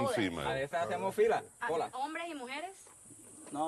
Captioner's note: they speak spanish